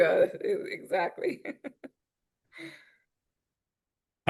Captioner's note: chuckles